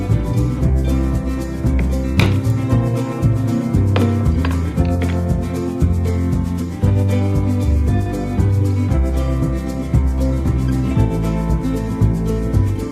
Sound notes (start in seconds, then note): 2.1 hammer noise